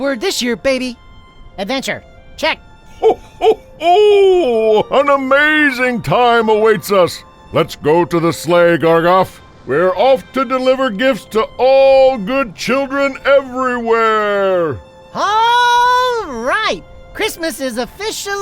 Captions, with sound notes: - Adventure, check. (Santa chuckling) - An amazing time awaits us. Let's go to the sleigh, Gargoff. We're off to deliver gifts to all good children everywhere. - All right. Christmas is officially on!